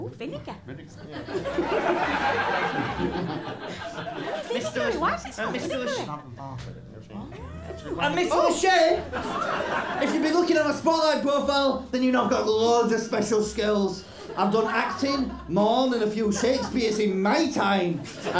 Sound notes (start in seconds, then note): 1.1 laughter